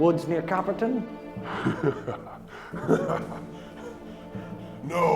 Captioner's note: Dobson laughing